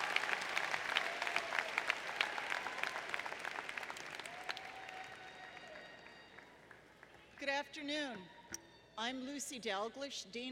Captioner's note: applause